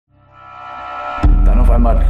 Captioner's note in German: Dröhnen